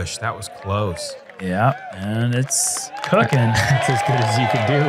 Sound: applause

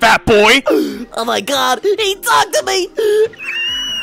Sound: gasp

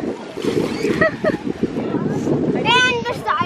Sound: laughing

